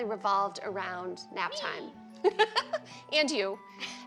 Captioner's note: laughs